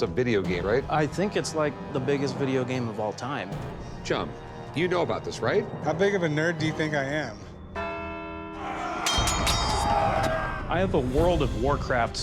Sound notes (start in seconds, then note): 7.7 bell tolls; 8.5 warriors shouting; 8.7 weapons clashing